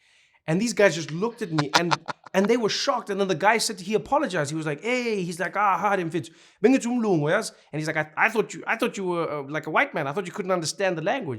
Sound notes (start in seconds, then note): 1.5 laughing; 5.2 speaking Zulu